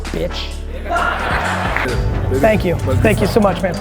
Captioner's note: laughter